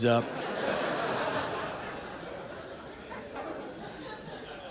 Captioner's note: audience laughing